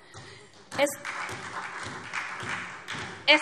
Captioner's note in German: Beifall SPD